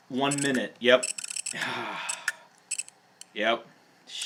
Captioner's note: computer's making clicky sounds